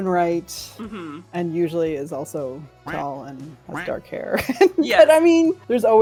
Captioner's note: laughs